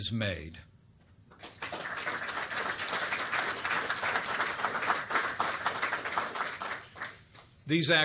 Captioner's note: applause